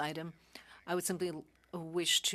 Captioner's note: speaking French